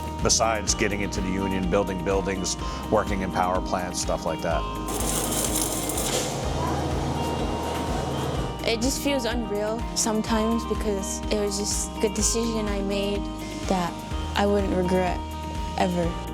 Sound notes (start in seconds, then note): 4.8 welder crackling